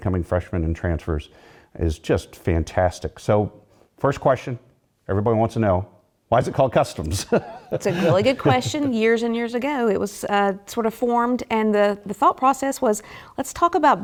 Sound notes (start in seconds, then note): 7.0 laugh